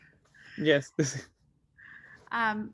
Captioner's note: laughs